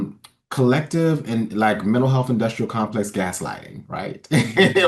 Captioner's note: laughs